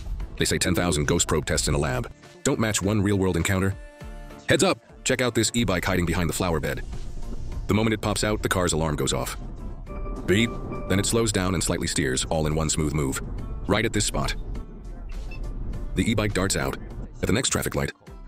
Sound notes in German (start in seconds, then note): 9.9 Piep!